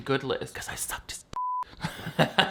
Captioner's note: beep; laughs